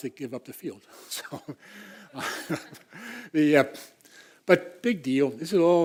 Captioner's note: laugh